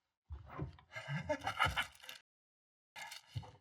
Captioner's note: snicker